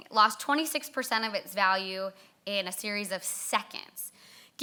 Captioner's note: none